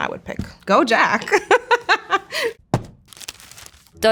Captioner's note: laughs